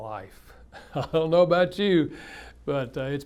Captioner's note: laughs